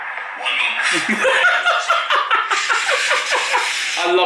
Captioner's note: laughing